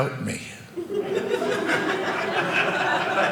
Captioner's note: audience laughing